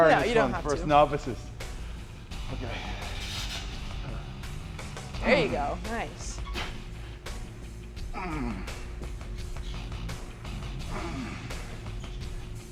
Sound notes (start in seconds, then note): 6.9 upbeat music continues; 8.1 Sheamus grunts